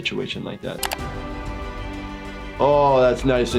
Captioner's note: triumphant music; computer mouse clicking